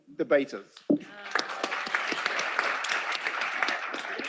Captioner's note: applause